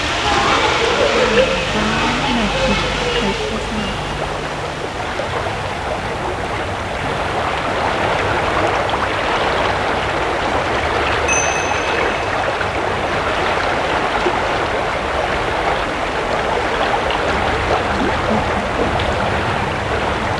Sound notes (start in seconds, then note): 0.0 children's voices, faint music; 4.9 rushing water; 11.2 bell dings; 13.1 rushing water; 20.0 rushing water